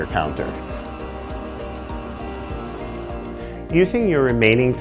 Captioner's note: mixer whirring